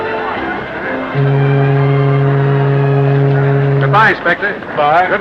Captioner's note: ship horn